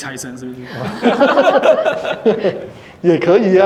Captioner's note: laughter